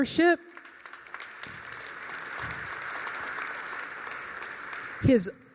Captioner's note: applause